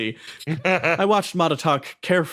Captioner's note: laugh